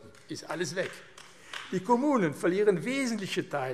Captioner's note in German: Beifall AfD